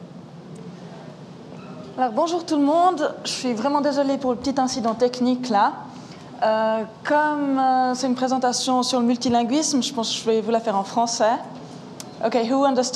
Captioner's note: speaking french